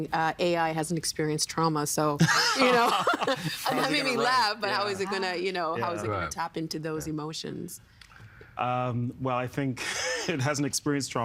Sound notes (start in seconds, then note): 2.3 laughing